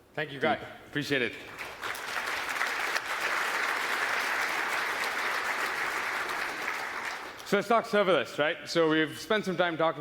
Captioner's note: applause